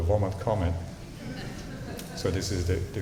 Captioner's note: laughter